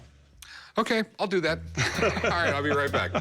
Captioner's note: laughter